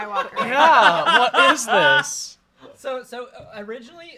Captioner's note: laughs loudly